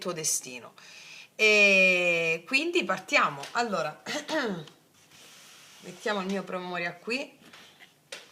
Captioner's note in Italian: schiarire la voce